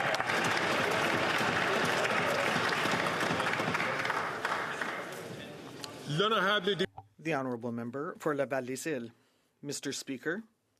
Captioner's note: some Applause